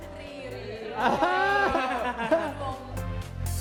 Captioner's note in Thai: เสียงหัวเราะ